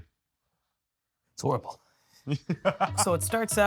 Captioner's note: laughing